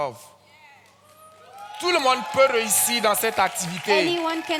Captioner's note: continues in French; audience cheers and claps